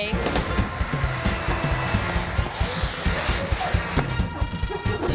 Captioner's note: firecracker hissing